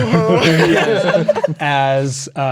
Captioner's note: players laughing